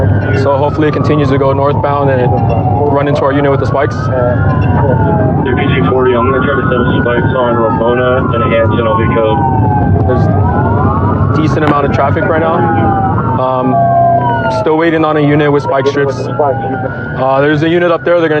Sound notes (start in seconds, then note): 5.6 radio